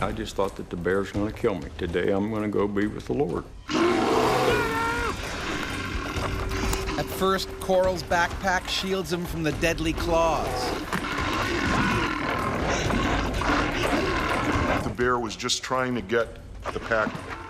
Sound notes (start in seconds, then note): 7.3 voiceover; 10.2 bear growling